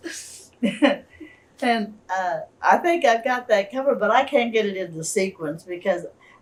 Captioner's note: laughs